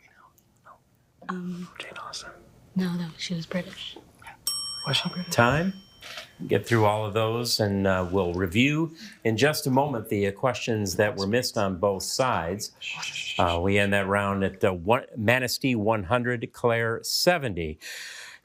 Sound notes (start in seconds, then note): 4.4 bell dings